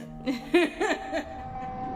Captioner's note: laughs